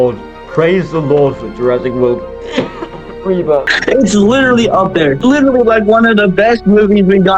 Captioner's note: cough